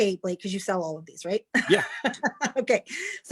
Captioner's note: chuckles